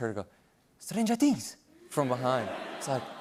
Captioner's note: Italian accent